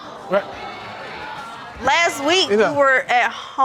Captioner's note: audience exclaiming